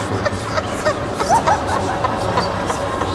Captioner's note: insane laughter continues